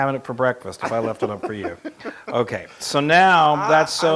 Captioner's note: laugh